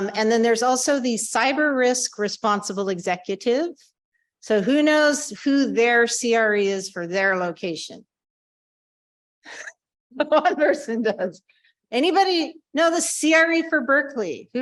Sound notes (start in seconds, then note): 9.5 laughing